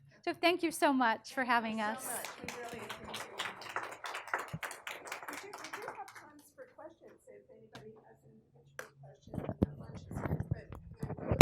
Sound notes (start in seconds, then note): 3.8 people applauding